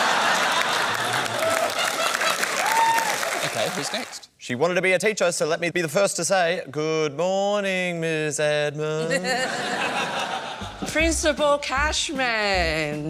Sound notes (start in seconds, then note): 0.0 laughter; 6.6 singsong; 9.0 chuckles